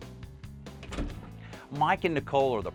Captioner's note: door clicks